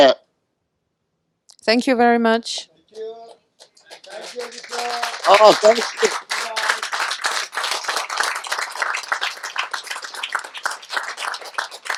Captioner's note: audience applauds